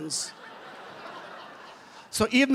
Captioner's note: laughter